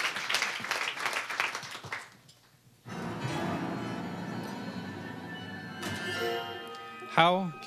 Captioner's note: applause